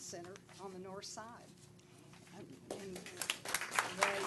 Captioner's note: applause